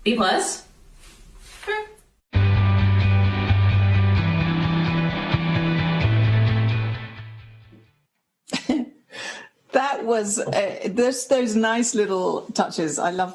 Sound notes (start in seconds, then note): 2.4 upbeat music; 8.5 chuckle